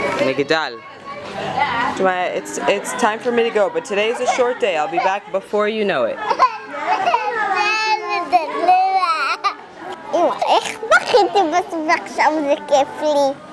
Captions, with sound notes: A tower. Shmaaya, its it's time for me to go but today is a short day. I'll be back before you know it. (Crying) Mom, how did I cry and now it's fun for me?